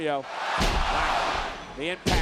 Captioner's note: spectators cheering